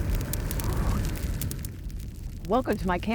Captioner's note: fire crackling